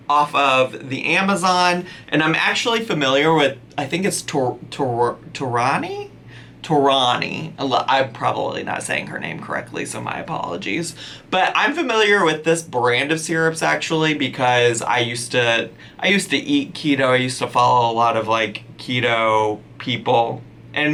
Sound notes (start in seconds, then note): none